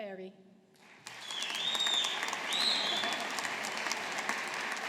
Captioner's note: audience applauding